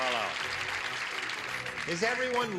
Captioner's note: clapping